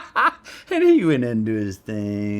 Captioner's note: Matthew laughs